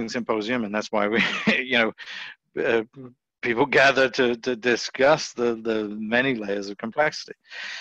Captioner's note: laughs